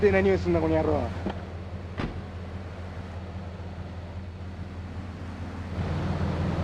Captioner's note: sirens wailing